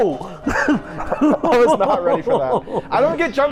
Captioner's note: both laughing